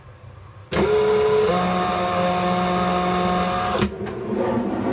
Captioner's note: drill buzzing